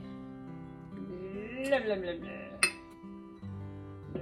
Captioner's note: sounds mayo would make if mayo could sound